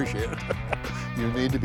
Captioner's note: laughs